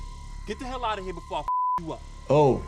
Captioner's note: ominous sting; beep